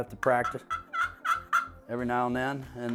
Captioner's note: gobbling